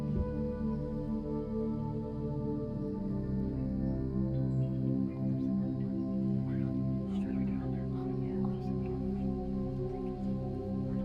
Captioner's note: whispering